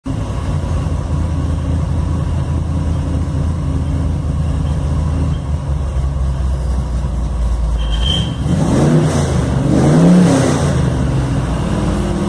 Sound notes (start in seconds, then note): 0.0 pure engine rumble and throttle